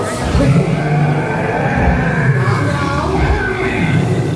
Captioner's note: monster groans